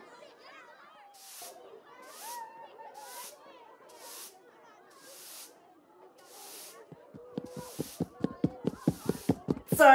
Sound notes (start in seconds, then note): 1.5 broom sweeping; 6.5 footsteps approaching